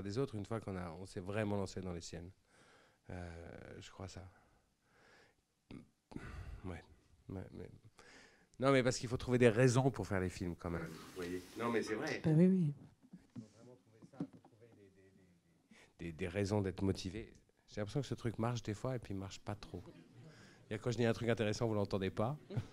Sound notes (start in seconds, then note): 17.0 speaking into the microphone